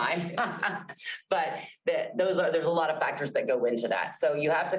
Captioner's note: laughs